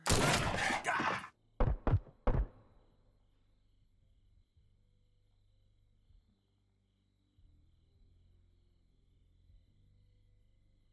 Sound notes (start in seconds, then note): 0.0 pistol booming; 0.0 Del grunting; 1.7 pistols booming